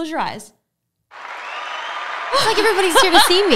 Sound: audience cheering

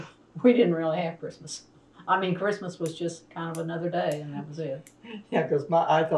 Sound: laughter

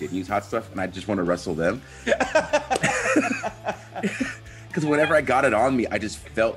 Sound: laugh

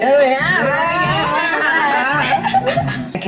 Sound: laughs

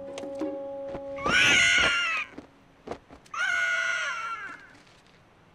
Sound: screeching

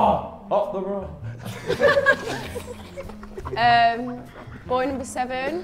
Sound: laugh

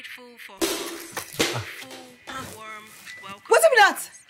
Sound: loud crash

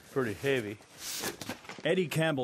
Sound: shuffling

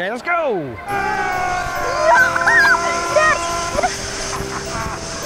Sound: yelling delightedly

